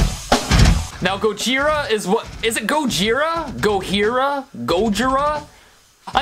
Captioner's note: Spanish